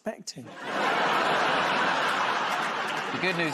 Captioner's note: laughter